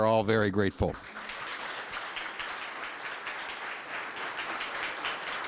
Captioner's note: audience applauding